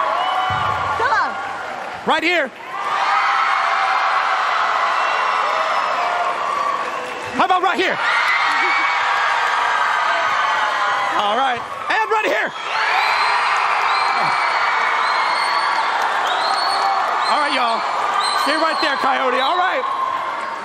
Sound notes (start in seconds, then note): 2.6 applause; 7.5 cheers and applause; 15.0 cheers and applause